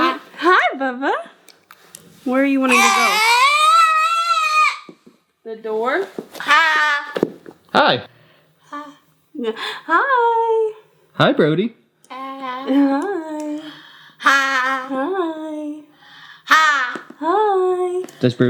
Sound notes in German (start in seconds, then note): 4.0 schreit